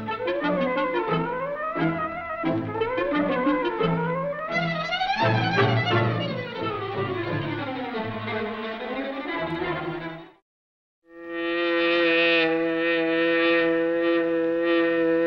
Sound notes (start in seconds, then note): 11.2 buzzing